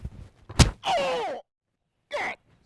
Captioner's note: loud slamming